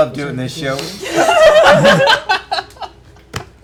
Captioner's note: laughter